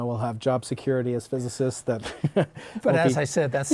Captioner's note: laughter